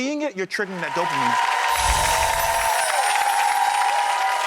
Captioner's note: cheers